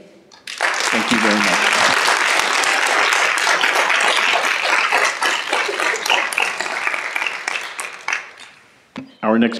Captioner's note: applause